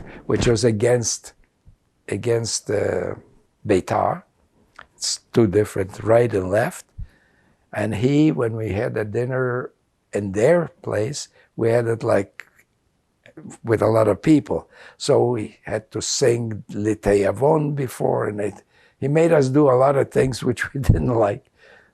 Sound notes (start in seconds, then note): 16.4 non-english